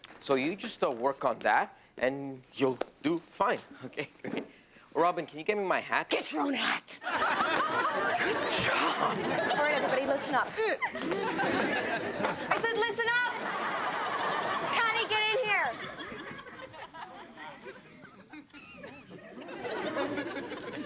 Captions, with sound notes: So you just work on that and you'll do fine. Okay, great. Robyn, can you give me my hat? Get your own hat. (audience laughs) - Good job. - All right everybody, listen up. (audience laughs) I said listen up! (audience laughs) Pattie get in here! (audience laughs)